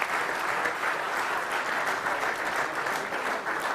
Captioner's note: applause